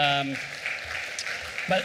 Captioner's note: applause